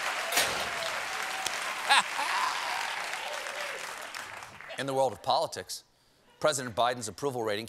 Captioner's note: applause